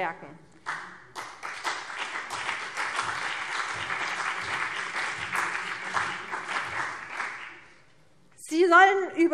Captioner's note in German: Beifall CDU und BÜNDNIS 90/DIE GRÜNEN